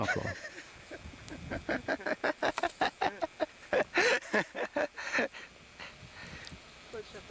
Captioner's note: laugher